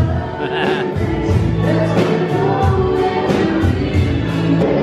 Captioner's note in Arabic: أبي يضحك